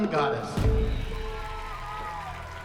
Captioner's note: applause